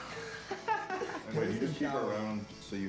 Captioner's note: laughter